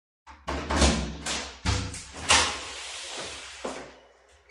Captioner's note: door shutting